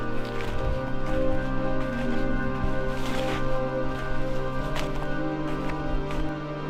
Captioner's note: leaves crunching; tranquil music continues